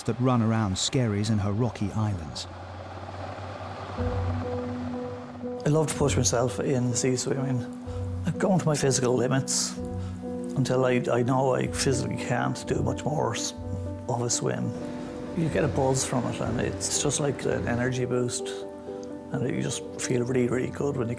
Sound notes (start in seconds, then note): 4.0 engine humming; 4.0 tense music